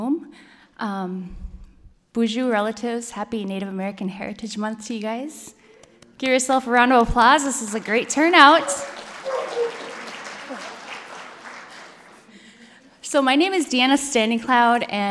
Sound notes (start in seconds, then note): 9.1 applause